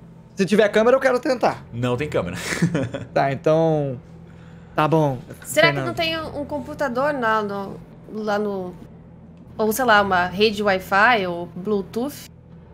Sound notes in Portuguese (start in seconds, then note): 2.3 haha